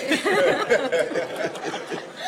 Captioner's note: laughter